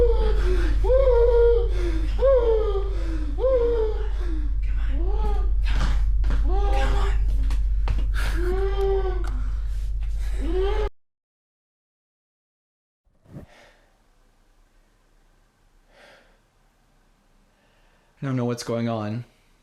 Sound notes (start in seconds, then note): 0.2 Keith gasping; 8.1 Keith hyperventilating; 15.8 heavy breathing